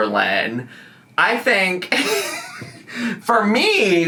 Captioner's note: laughs